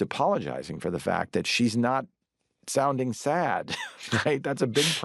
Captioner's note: laughs